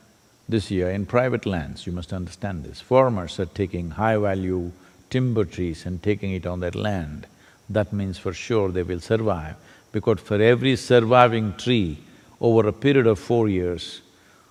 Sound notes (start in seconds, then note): none